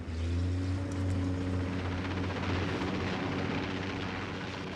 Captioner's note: engines rumbling